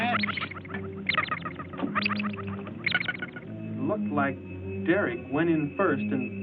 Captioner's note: machines beeping